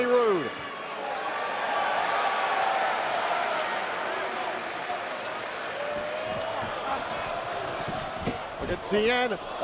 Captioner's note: crowd cheering